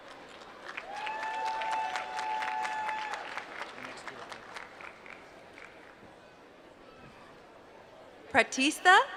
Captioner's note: applause